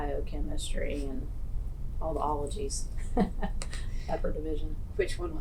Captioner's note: laughs